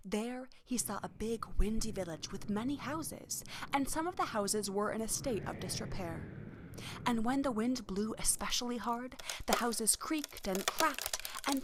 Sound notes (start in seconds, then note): 6.3 wind rushing; 11.3 wood cracking